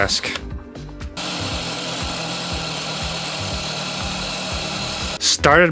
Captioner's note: Sound of Dremel cutting plastic